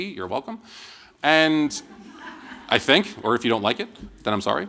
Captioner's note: laughter